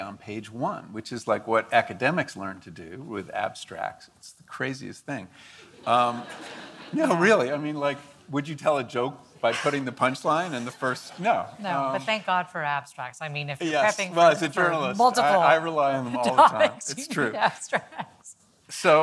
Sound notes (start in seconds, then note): 5.8 audience laughing